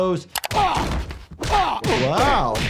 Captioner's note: Brian groans